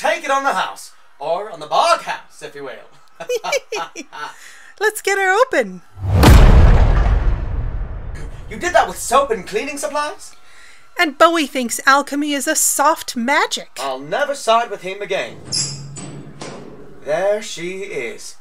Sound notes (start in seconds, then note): 3.2 giggle